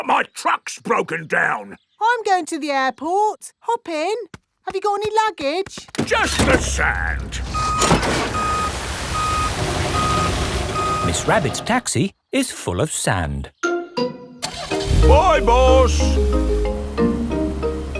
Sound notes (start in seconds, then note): 7.9 beeping; 14.4 car engine starts